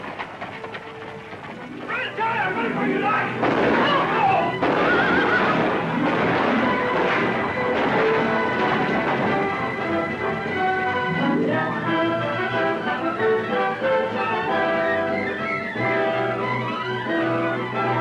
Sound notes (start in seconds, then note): 3.3 gunshots; 3.8 screams; 4.8 horse neighs